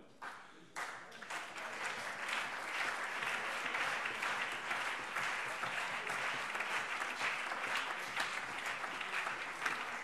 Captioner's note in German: Beifall CDU, BÜNDNIS 90/DIE GRÜNEN, Freie Demokraten und vereinzelt SPD